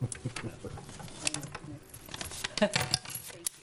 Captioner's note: laughing